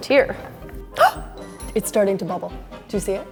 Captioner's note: gasps